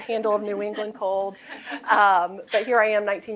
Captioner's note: laughter